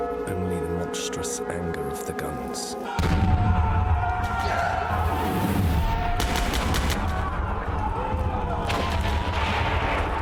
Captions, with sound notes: only the monstrous anger of the guns. [war sounds]